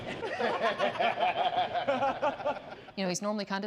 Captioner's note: group laughs